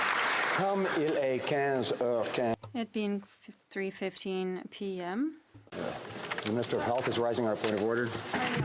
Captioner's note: applause